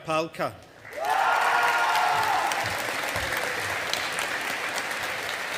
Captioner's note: audience applauding